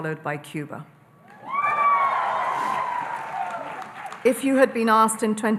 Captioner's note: audience cheering and applauding